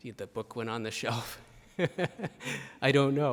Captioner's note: chuckles